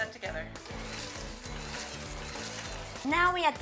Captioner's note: mixer whirring